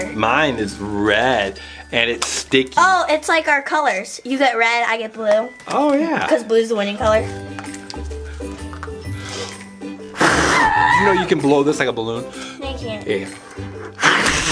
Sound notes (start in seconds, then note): 10.0 blows air